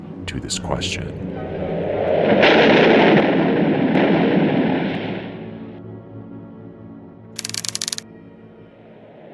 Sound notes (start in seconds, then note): 2.3 explosion